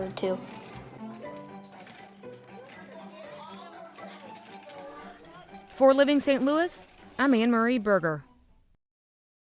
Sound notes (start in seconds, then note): 2.5 kids talking